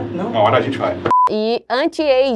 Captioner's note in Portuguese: som de bipe